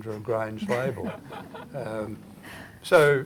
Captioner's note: audience Laughter